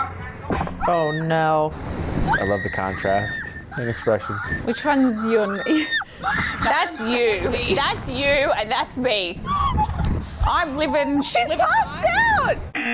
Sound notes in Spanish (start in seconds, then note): 2.2 chicas gritando; 5.4 risas; 12.8 zumbador